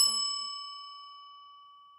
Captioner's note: bell ding